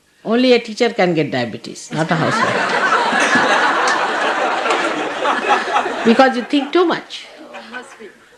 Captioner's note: laughter